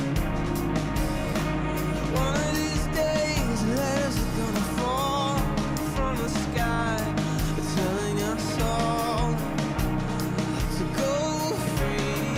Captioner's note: crowd cheering